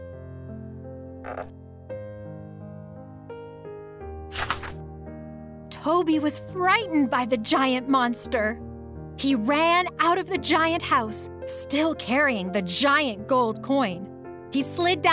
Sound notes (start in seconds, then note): 4.3 paper crinkling